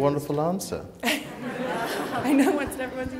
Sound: laughter

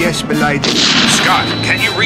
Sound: gun blasting

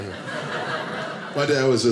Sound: audience laughing

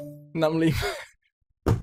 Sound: wheezing

